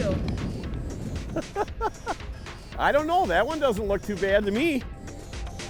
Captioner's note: laughing